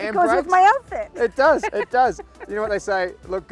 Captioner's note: laughs